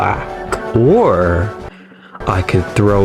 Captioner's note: inhales Oxygen